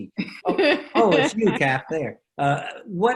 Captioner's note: laughs